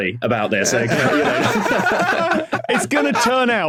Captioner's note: laughter intensifies